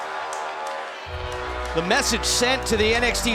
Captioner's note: crowd cheering